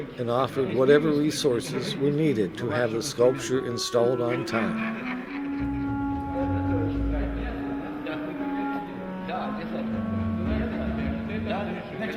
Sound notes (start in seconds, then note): 4.2 all laughing; 5.1 light orchestral music; 7.4 speaking in the Russian language